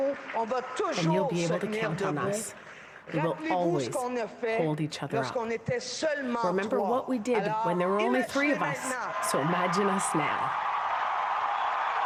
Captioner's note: cheers and applause